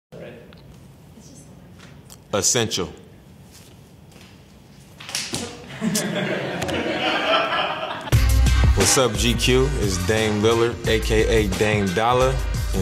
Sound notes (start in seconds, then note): 5.7 laughing